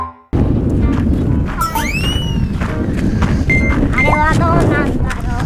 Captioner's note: sound of wind